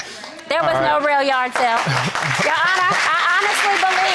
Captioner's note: audience applauding